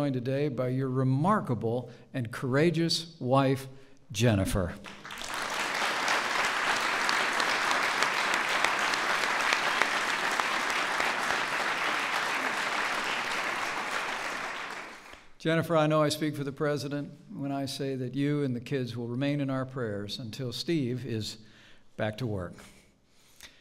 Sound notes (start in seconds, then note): 4.8 applause